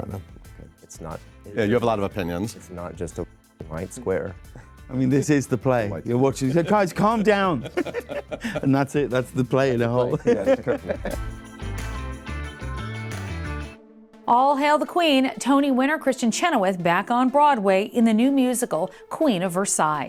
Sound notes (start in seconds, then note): 6.3 group laughing; 10.2 upbeat music